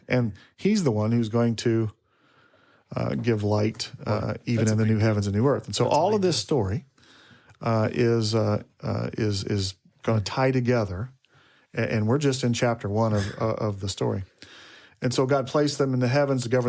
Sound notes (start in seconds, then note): 13.1 speaker chuckles